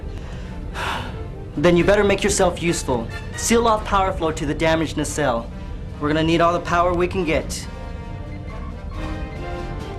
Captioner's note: sigh